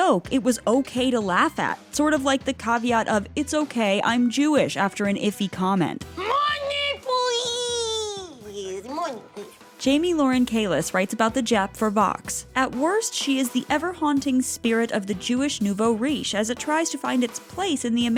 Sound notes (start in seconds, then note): 6.2 screaming